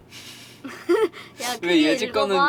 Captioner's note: laughter